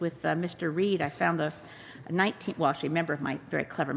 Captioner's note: speaking english